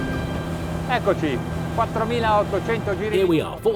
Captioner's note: speaking language